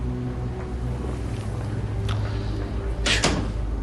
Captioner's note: Въздишки